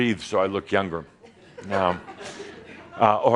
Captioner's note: a few chuckles